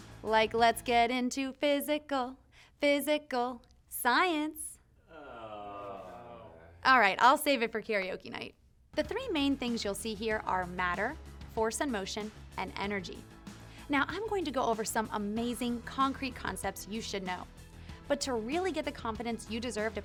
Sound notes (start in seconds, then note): 5.0 cameramen groaning